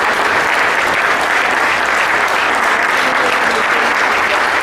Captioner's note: applause